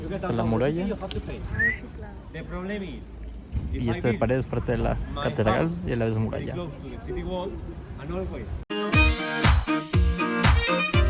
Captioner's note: whistle in Mexican